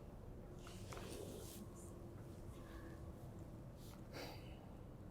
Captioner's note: material rustling